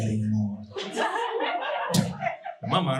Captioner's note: audience laughing